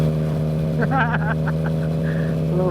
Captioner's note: laughs